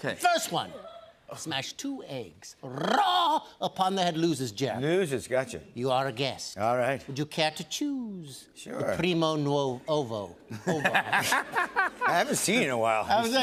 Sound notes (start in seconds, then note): 10.6 laughs